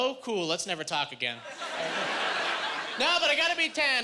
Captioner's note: laughing